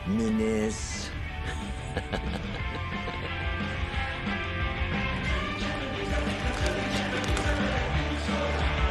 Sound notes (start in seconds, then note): 1.4 Tertawa